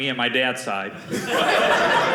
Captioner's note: audience laughing